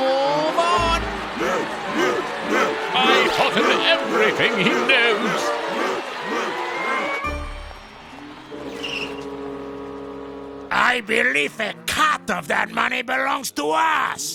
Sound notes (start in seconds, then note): 2.6 crowd chanting